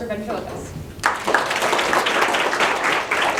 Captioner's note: applause